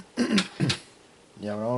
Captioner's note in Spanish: carraspeo